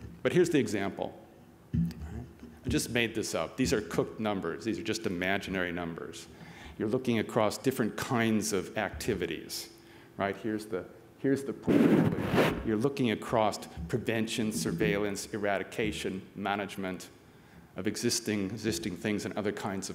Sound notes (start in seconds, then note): 11.6 static